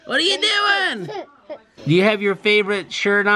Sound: laughing

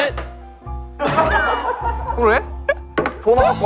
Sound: staff members start laughing

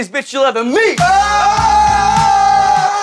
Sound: all cheering

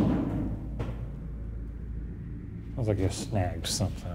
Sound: thudding; ball bouncing

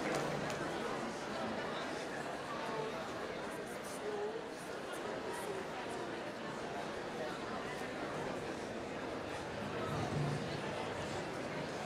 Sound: applause

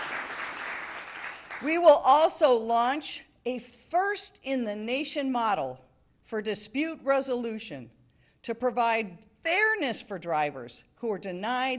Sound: applause

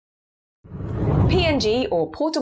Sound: screen whooshes

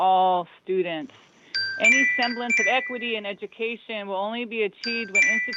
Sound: chime

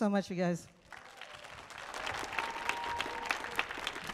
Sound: audience clapping

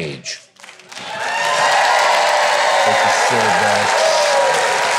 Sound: audience clapping

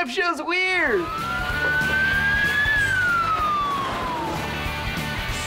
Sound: sirens blaring

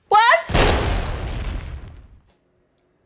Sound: kaboom!

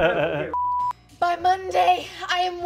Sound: laughing; beep

